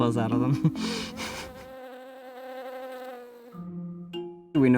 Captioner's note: chuckles; bee buzzing